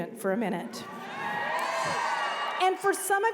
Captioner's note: cheers